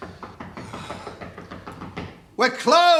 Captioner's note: knocking intensifies